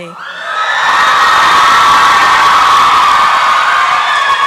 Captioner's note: applause and cheering